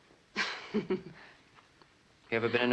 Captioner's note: chuckles